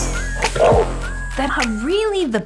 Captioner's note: roars